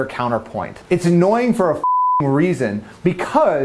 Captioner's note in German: piepen